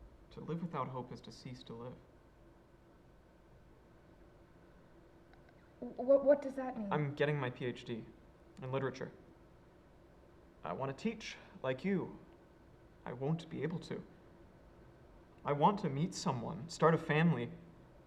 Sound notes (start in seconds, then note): none